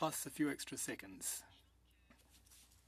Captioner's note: speaking French